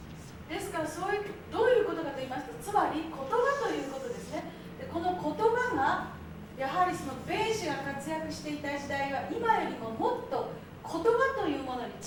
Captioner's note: speaking Japanes